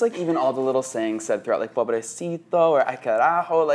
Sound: speaks foreign language

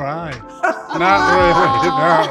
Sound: laughs

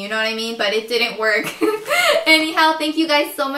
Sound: giggles

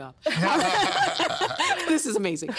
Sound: all laughing

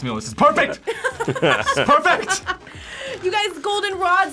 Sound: both laugh

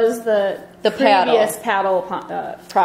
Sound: voiceover

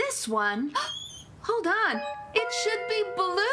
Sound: gasps

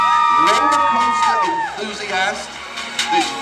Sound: girls Screaming

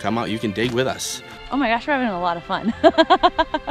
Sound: laugh

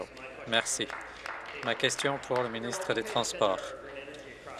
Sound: applause

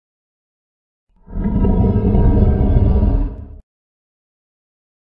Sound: roar

